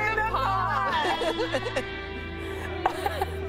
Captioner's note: laughter